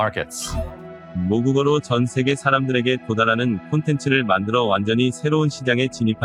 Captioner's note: speaking foreign languages